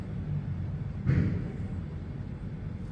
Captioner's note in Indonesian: suara gedebuk